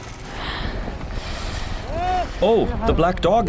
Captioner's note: breathes